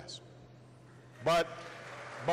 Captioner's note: applause